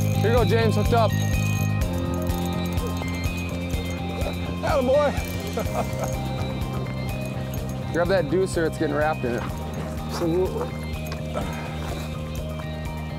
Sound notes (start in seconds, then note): 7.0 laughs